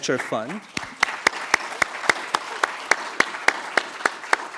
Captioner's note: audience clapping